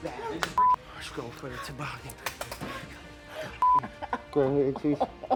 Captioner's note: panting; laughing